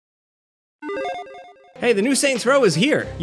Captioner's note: logo beeps